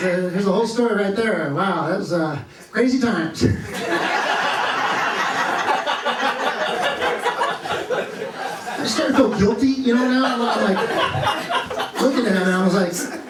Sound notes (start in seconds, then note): 3.6 laughter